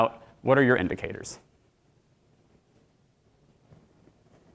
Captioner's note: silence